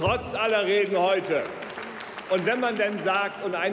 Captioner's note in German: Beifall bei Abgeordneten der SPD